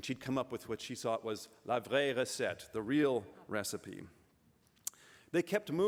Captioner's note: french